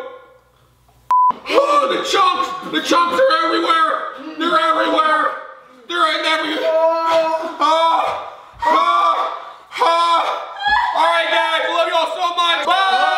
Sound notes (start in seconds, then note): 8.2 screams